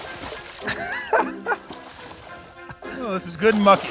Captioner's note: laughs quickly